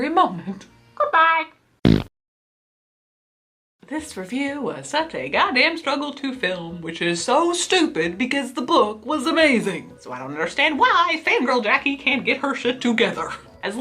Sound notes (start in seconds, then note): 1.8 fart noise